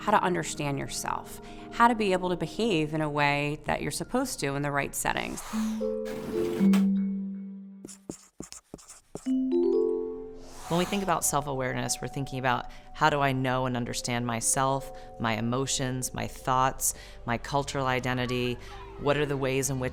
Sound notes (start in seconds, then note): 5.7 air whooshing; 6.6 bright music; 6.6 rustling; 10.5 air whooshing